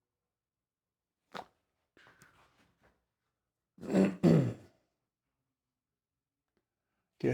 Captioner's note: clears throat